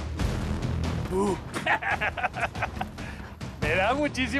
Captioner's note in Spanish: carcajada